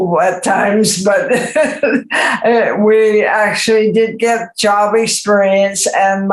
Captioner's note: laughs